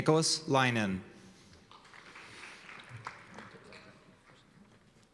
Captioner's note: applause